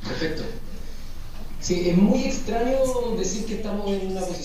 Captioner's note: speaking spanish